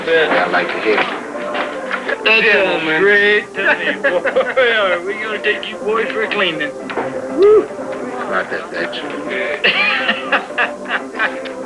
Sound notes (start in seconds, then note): 3.6 laughter; 9.6 laughter